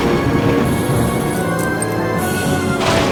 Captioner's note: lightning crashes